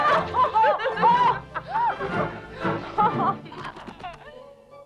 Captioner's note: Hundra yells; both laughing